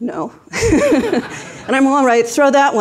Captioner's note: everyone laughs